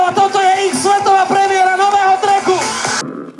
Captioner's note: voice over mic